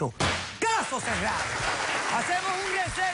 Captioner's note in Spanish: aplausos